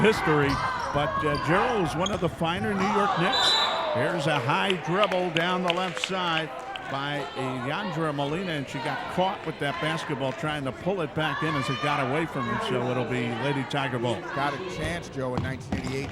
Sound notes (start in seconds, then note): 2.8 referee whistling